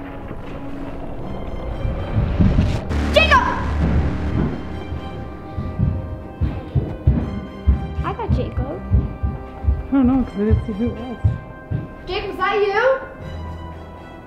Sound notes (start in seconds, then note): 0.1 music intensifies; 4.4 footsteps